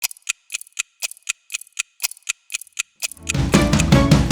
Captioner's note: clock ticking; upbeat music